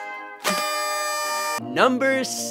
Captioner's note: tooot!